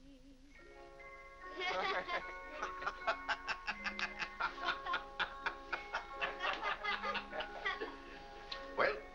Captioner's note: soft music; family laughing